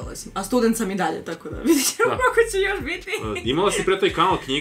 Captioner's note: laugh